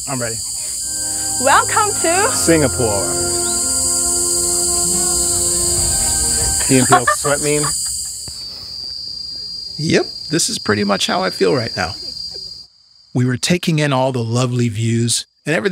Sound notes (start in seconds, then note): 3.3 dramatic orchestral music; 6.8 laughing